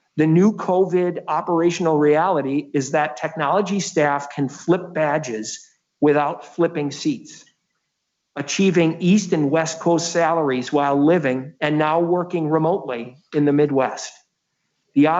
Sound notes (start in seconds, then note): none